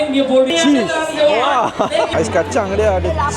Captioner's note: laugh